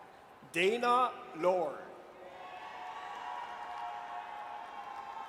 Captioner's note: audience cheers